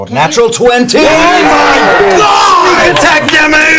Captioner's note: cheering